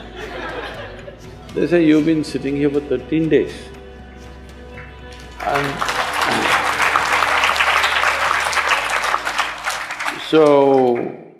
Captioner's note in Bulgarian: Ръкопляскания